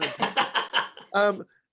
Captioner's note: laughing